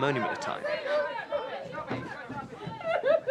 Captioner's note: Duncan cries